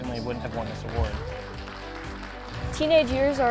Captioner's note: applause